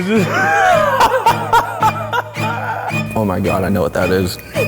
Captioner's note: laughs